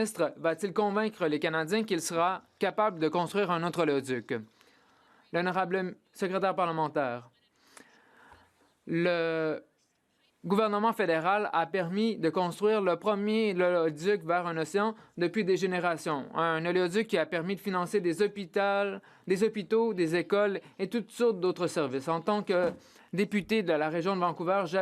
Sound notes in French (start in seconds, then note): 11.1 voix de l'interprète